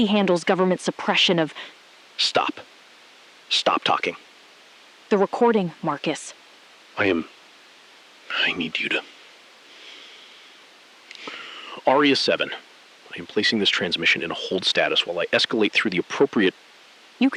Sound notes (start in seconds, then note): 11.1 long exhale